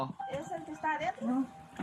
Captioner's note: speaking Spanish